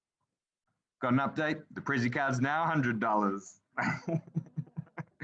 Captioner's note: laughing